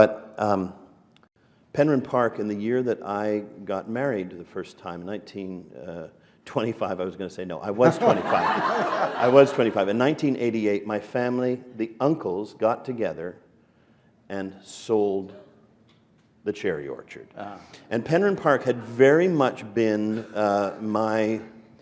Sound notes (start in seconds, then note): 9.8 laughter